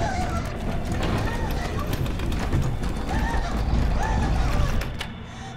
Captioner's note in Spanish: Hiperventilación